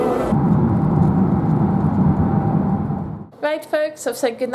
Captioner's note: road noise